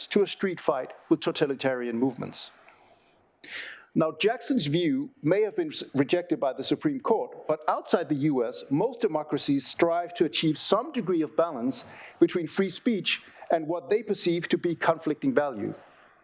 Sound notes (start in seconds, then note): none